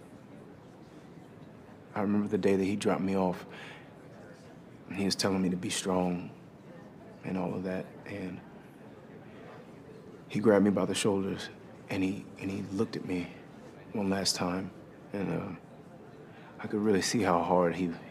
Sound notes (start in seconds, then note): none